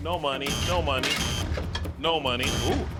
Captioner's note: buzzer blaring; buzzer blares